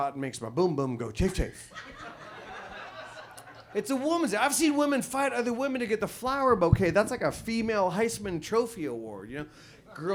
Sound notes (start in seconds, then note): 1.7 audience laughs